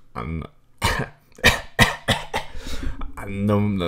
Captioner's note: coughs